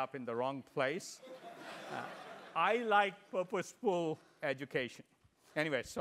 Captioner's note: laugh